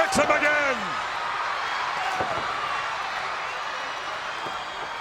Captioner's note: crowd yelling